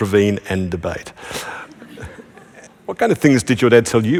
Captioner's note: laughter